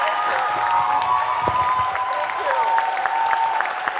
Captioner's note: audience applauding